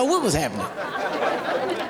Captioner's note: audience laughing